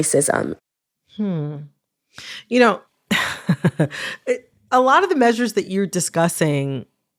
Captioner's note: laughter